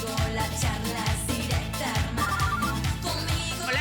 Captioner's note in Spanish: Suena el celular